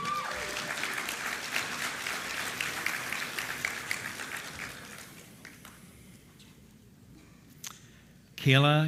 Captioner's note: applause